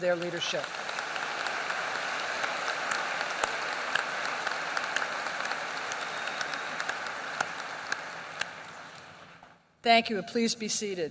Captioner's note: applause